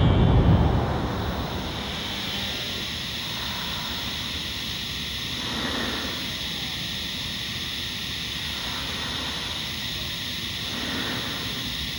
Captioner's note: machine hissing